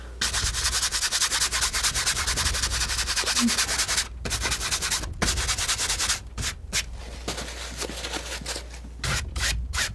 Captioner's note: scratching